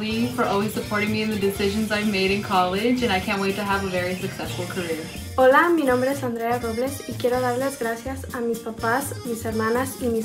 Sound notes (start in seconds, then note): 5.3 speaks in foreign language